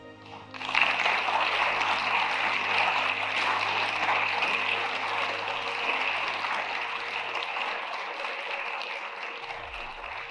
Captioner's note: applause